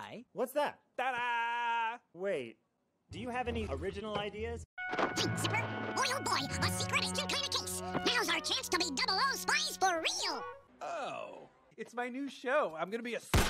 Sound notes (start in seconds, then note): 4.8 Rescue Rangers Episode plays